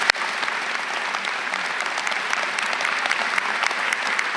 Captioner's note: applause